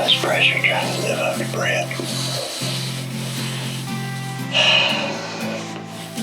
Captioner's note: sighs